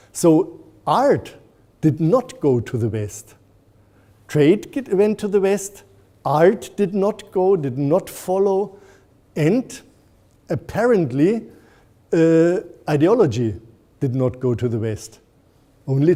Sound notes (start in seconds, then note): none